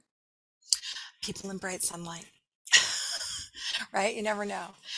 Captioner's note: laughing